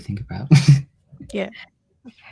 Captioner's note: chuckles